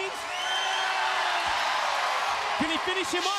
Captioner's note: crowd cheers